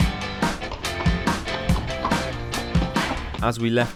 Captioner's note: horse trots